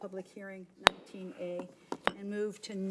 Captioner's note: gavel bangs